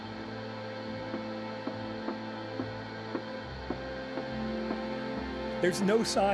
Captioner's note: footsteps ascending stairs